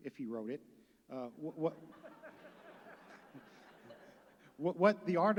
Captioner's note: laughter